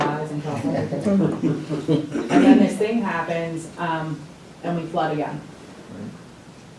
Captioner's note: laughter